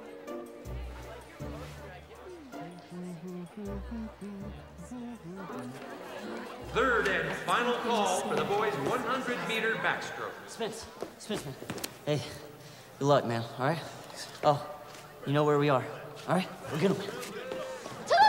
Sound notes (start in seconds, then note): 0.1 curious music; 2.5 Spencer humming